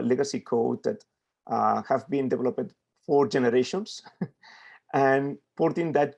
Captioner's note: chuckles